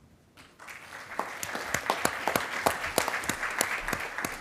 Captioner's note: attendees applauding